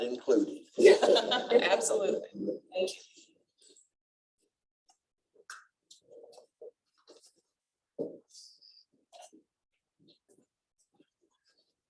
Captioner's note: laughter